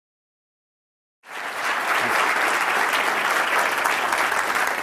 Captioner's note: audience clapping